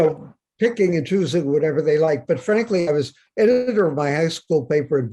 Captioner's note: Bob laughs